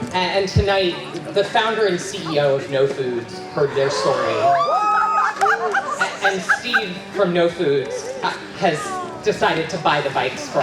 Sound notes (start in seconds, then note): 3.6 cheering